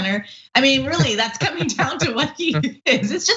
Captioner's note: laugh